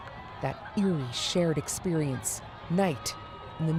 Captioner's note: cheers and Applause